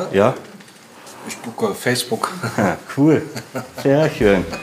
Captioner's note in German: lacht